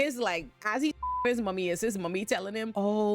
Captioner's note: beep